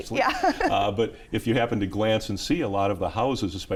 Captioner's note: laughs